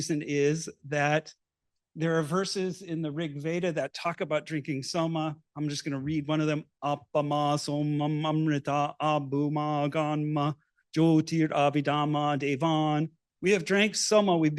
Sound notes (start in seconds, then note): 6.9 non-english speech